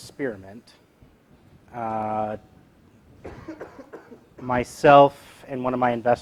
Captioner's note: cough